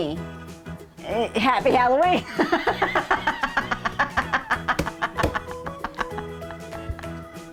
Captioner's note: laughing